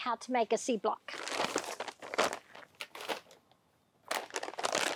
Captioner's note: paper crunching